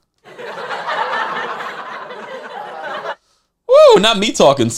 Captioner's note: audience laughing sound effect